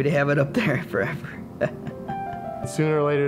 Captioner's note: chuckles